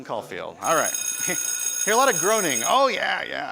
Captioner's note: bell ringing